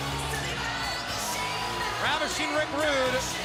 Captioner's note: crowd chatter